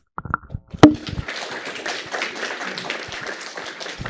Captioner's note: applause